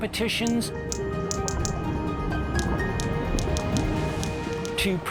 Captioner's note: whales clicking